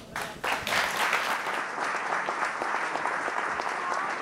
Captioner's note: audience applauding